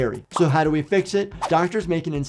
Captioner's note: bubble popping tone